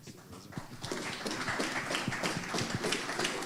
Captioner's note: applause